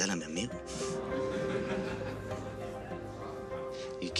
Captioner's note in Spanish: Comentarios y risas